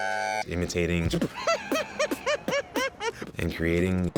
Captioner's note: beat boxing